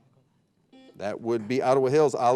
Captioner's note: buzzer beeping